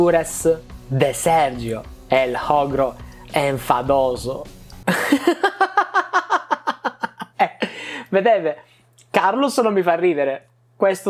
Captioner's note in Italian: risate